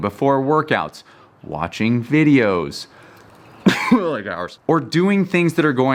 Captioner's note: coughs